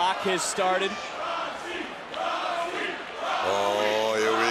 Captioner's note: crowd chants "roxy"